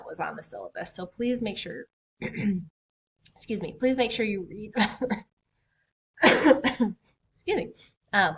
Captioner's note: coughs excuse me